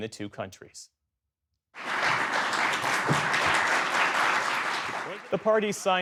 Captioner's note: applause